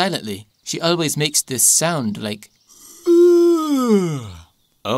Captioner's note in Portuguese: Yawns alto